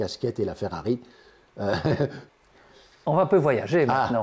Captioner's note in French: rire